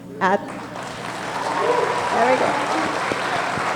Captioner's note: audience applauding